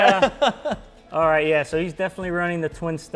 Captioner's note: laughs